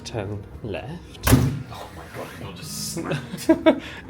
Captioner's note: door slams